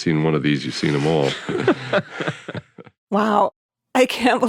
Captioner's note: both laughing